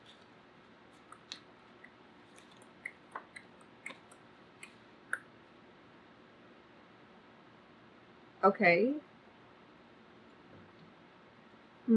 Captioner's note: clicks tongue